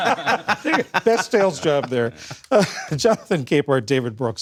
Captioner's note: laughter